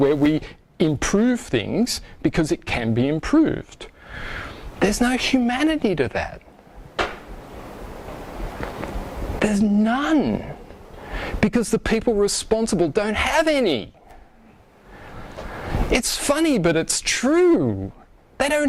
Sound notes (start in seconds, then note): none